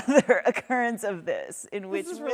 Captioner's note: both laughing